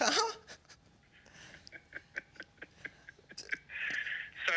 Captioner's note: chuckles